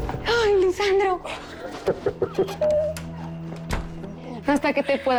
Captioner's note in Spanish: Lisandro ríe